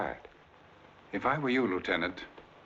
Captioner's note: none